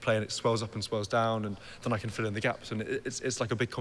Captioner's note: none